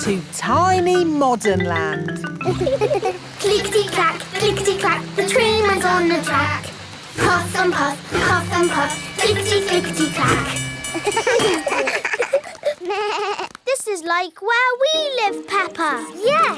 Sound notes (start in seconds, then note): 2.4 laughing; 10.9 all laugh